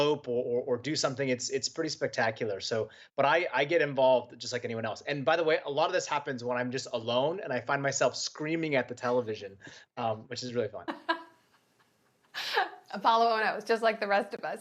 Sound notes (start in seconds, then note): 10.9 laughter